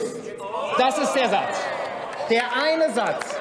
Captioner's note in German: Zurufe von der FDP, der CDU/CSU, der SPD und dem BÜNDNIS 90/DIE GRÜNEN: Oh!